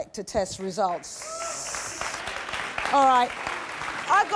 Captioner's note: audience applauding